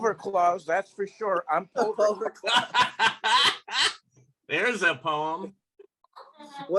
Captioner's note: laughter